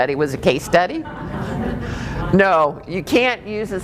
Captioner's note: laughing